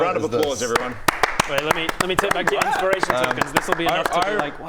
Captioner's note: stunned applause